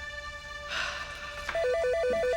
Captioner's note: sighs; phone ringing